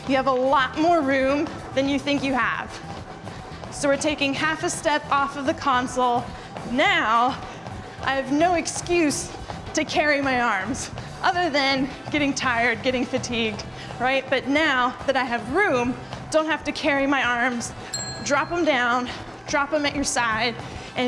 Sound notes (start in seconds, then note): 17.9 bell dinging